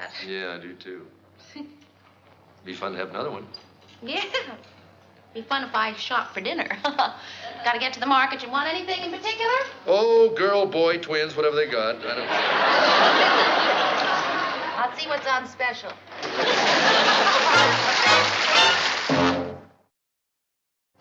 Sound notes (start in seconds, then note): 6.8 chuckles